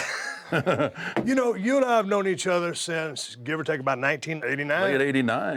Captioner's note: laugh